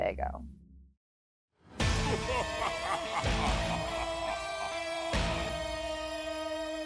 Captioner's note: tense music; man laughing